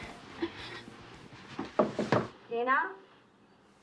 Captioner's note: knocking